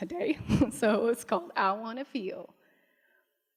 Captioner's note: laughs